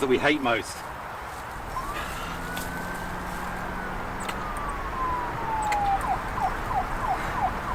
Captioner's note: sound of police siren